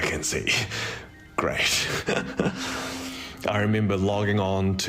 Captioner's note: chuckles